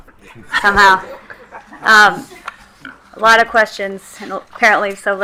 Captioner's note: attendees laughing